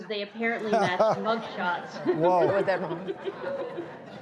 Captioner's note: laughing